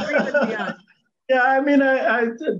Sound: laughs

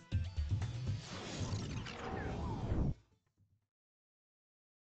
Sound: whirring machinery

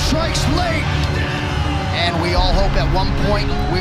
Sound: end of round air horn blares

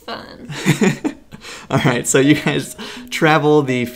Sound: laughs

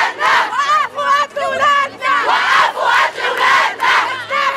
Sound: chants

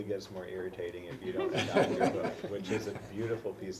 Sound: laugh

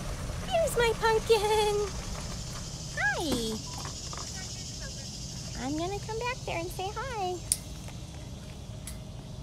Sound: chirping

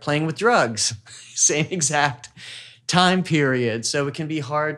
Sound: laughs

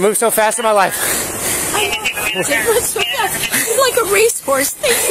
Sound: radio chatters

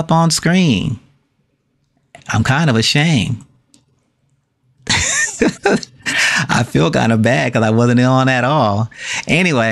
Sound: laughing

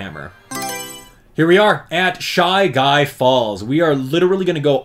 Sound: Mario Selection Sound

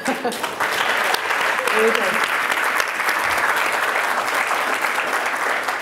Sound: applause

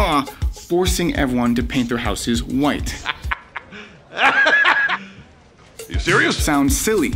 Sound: laughing

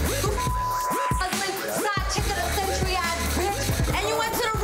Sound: beep

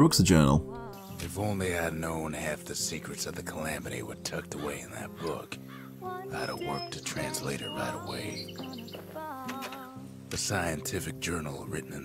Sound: in-game audio

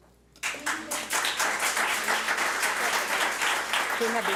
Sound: public applauding

